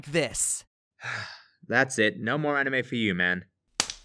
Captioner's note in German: Seufz